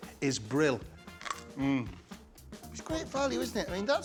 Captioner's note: munches; cauliflower crunches